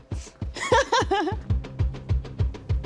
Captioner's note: Sydney laughing